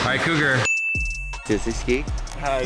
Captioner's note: dinging